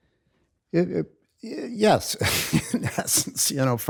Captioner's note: laughs